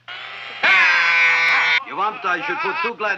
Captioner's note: drill droning; patient screaming